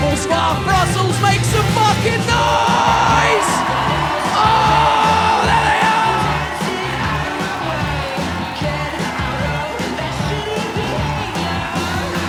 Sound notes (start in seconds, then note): 4.4 audience cheers and claps; 4.4 rock music